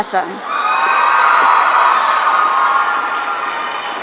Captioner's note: audience cheering